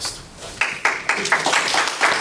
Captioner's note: applause